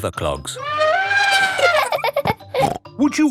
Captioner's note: trumpeting; laughing